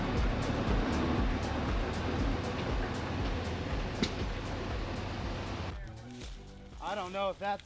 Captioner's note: engine revving